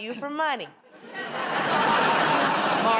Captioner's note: laughter